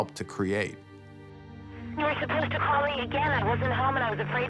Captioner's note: on phone